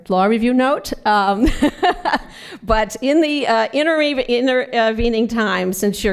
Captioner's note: laughs